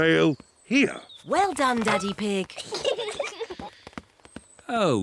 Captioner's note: peppa and george giggle